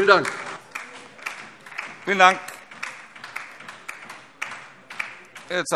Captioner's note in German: Beifall DIE LINKE